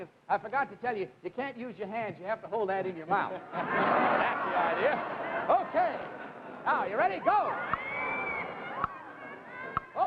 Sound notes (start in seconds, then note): 3.2 audience laughs